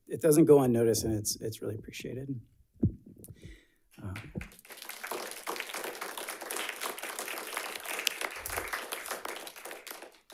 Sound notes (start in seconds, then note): 4.0 audience applauds